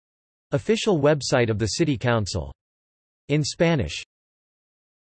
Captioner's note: in Spanish